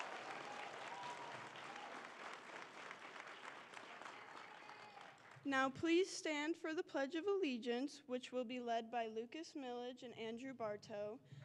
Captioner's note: applause